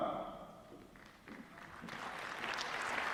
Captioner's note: applause